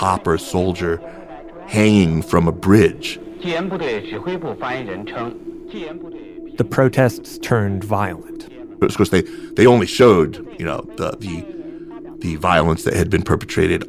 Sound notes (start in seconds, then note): 4.7 speaking Mandarin Chinese